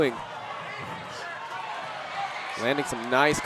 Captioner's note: audience cheering